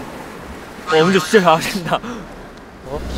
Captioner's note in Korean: 퀘엥